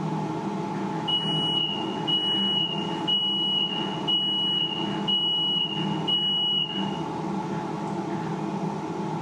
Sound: machine beeps

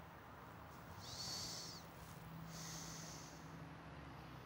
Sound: sighs

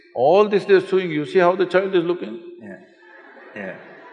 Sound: laughter

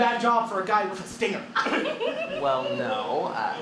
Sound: Janet giggles

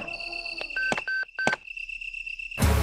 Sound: radio Beep

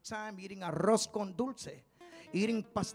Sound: speaking in Spanish

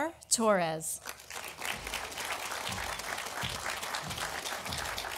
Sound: audience applauding

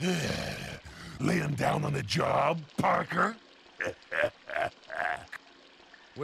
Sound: laughs

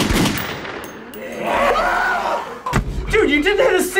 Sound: repetitive gun shots; zombies growl angrily; screams

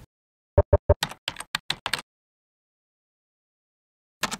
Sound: keys clacking

